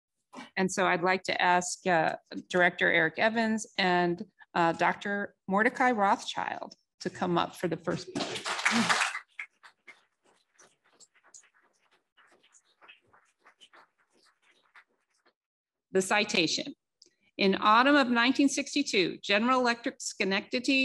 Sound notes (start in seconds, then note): 8.0 applause